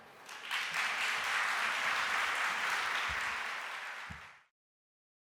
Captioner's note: audience applauding